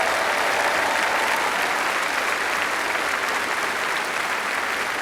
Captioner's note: applause